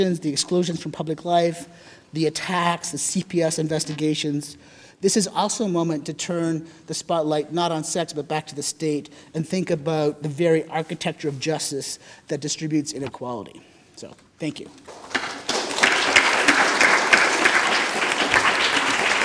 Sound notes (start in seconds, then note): 14.8 audience applauding